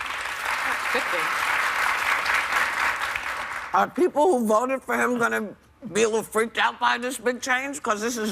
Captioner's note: applause